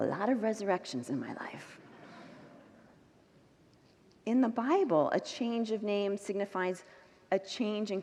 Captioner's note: congregants laugh